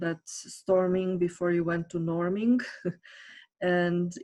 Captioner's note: giggles